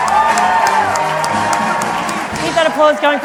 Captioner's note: applause